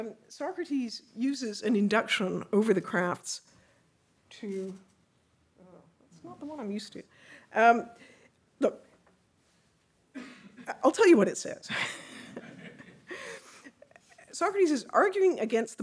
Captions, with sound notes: Socrates uses an induction over the crafts to... Oh, that's not the one I'm used to. Look, I'll tell you what it says. (laughing) Socrates is arguing against